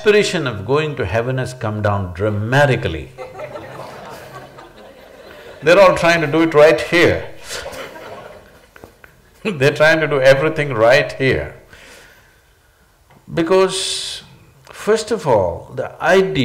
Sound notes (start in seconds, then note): 3.1 laughter; 7.4 laughs